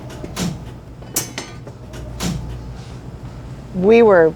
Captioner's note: light switches clicking